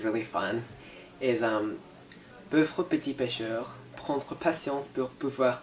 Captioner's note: speaks French